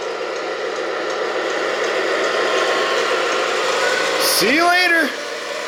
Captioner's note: truck engine roars